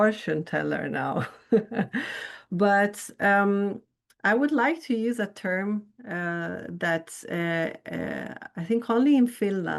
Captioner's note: chuckles